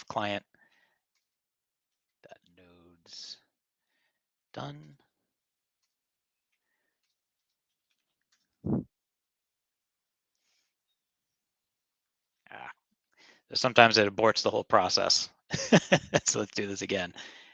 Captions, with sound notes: Client.nodes_done. Ah, sometimes it aborts the whole process. (laughing) So let's do this again.